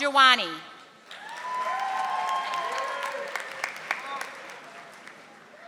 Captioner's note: audience applauding